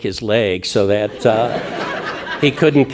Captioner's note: audience laughing